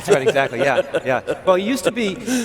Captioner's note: laughing